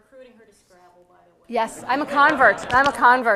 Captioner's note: audience laughter